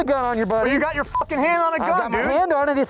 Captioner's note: beep